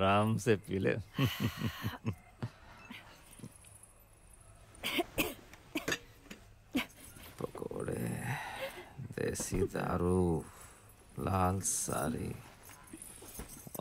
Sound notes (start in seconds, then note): 4.8 coughs